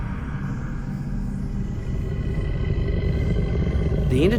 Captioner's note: growling